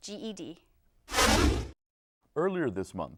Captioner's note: deep swooshing